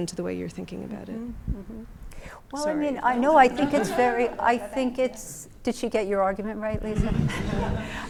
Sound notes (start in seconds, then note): 3.5 laughter